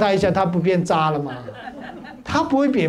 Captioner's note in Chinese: 哈哈哈